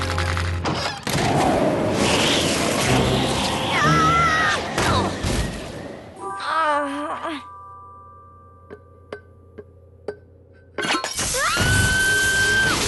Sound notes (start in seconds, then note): 1.0 whistling wind; 3.7 shouts; 6.4 groan; 11.3 scream